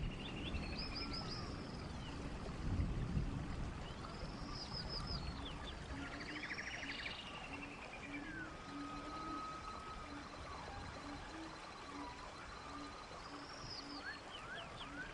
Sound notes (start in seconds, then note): 0.1 birds chirping